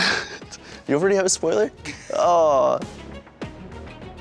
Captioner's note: laughs; groans; suspenseful music